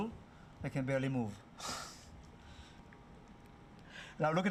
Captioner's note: laughs